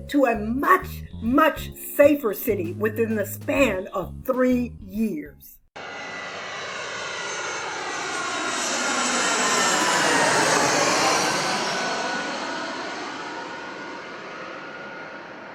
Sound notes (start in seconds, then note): 5.9 plane engine roaring